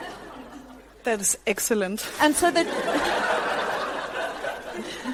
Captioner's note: audience laughs